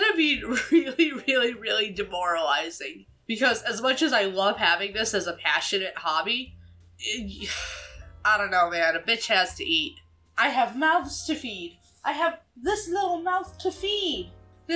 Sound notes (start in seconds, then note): 7.2 sighs